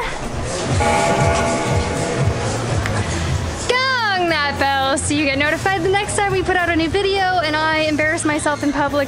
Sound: bell rings

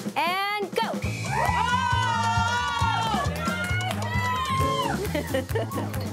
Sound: people cheering and clapping

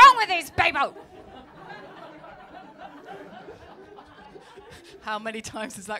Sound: laughter

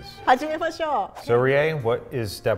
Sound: speaks in foreign language

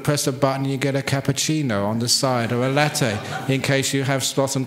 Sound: laughter

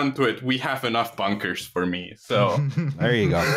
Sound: chuckles

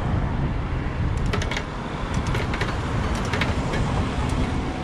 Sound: bicycle cranking

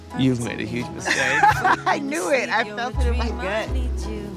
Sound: laughing

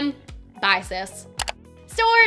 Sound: click

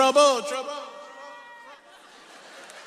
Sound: voice echoing; audience laughs

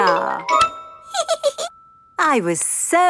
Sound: giggles

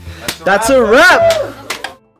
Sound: cheers; applause

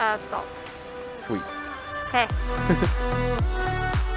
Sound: laughs

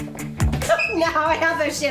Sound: uplifting music; sneakers squeak

